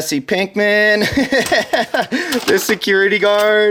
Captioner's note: laughing